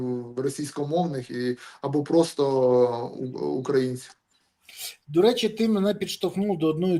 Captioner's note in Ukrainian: сопіння